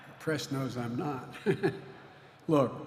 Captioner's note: laughter